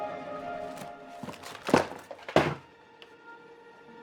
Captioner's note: items rustling